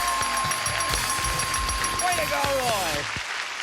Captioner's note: dinging